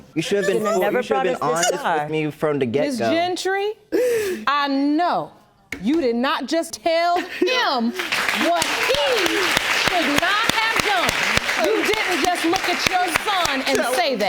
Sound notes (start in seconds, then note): 10.2 audience applauding